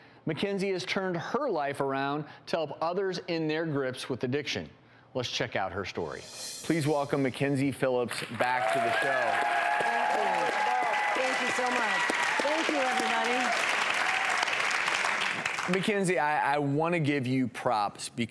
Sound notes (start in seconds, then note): 9.6 cheering